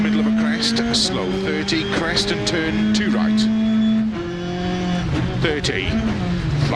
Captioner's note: none